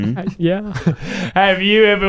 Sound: laughing

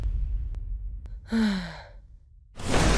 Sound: Orion gasps; sighs in relief

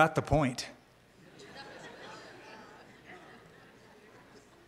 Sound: laughter

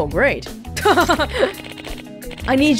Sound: chuckles

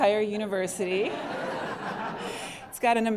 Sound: laughter

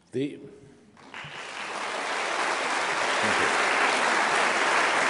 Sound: applause

